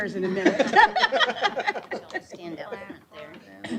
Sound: laughter

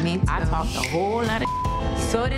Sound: beep

